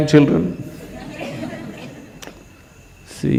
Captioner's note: laughter